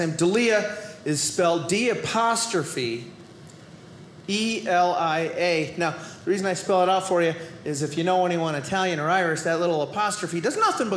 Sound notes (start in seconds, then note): none